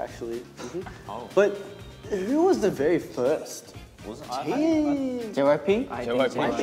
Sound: speaks in Korean

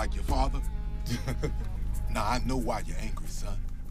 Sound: chuckles

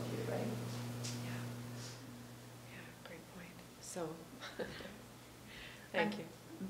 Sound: laughing

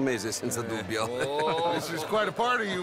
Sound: Some other men laugh at Bronte's comment

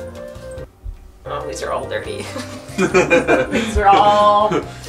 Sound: both laughing

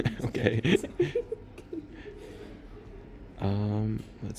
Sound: laughing

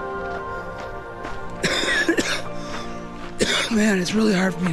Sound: coughing

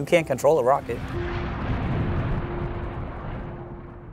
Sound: bomb explosion

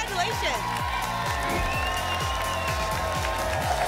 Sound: applause and cheering

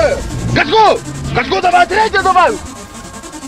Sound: the engine sounds

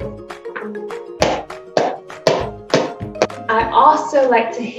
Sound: hammer banging

